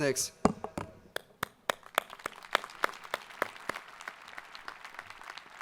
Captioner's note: audience applauding